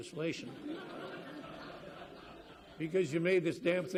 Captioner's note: audience laughs